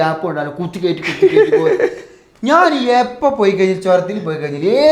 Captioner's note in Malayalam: പൊട്ടിച്ചിരി